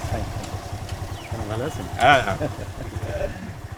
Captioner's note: foreign language